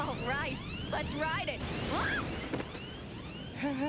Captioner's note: screams